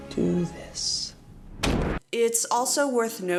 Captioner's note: bwammm